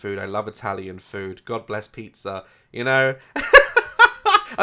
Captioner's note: goofy laugh